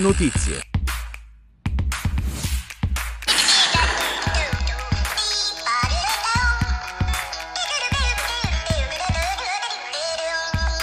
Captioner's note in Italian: Applauso